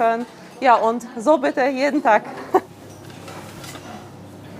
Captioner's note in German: lacht